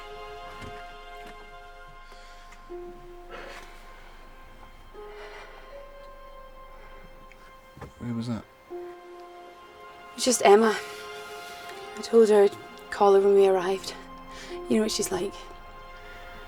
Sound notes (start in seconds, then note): 2.0 deep breathing